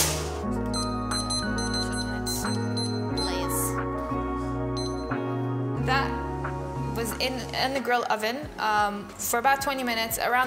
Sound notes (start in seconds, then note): 0.7 beeping